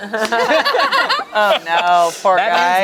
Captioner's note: group laughs